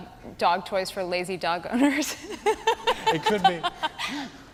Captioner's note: laughing